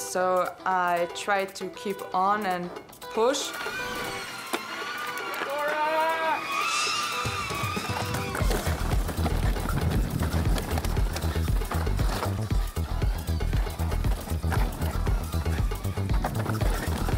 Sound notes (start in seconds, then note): 6.8 device vibrating; 8.8 bright upbeat music